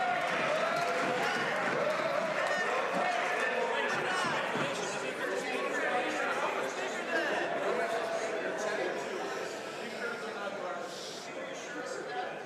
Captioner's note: some Applause